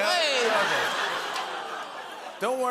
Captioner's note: laughter, oohs, and applause